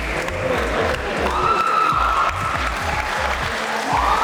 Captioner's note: cheering